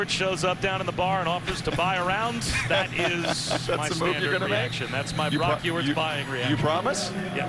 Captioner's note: laughter